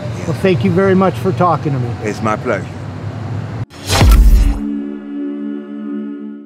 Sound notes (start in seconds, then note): 3.8 air whooshing; 3.9 drum thuds